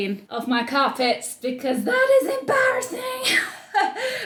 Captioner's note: chuckling